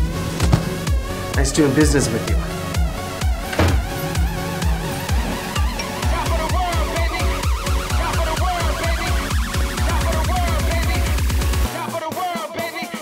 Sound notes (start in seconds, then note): 3.4 door slams; 5.9 phone alerts